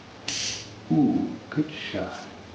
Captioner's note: gun clicks